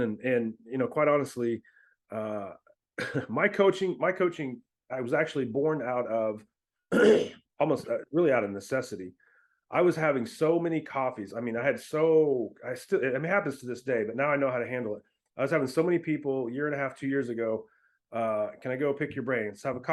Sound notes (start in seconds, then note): 6.9 clears throat